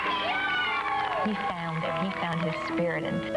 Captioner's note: crowd cheering